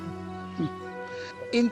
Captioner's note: snickers